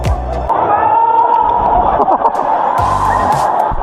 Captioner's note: foreign scream